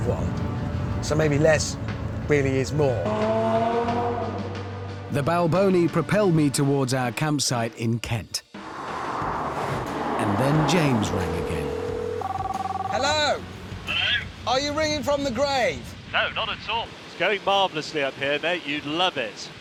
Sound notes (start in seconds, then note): 12.0 phone rings